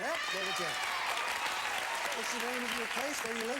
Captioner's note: audience applauding